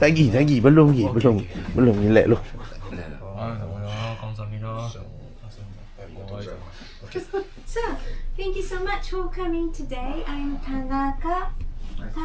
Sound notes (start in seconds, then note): 3.0 speaking Japanese